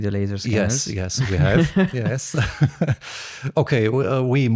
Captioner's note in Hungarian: nevetés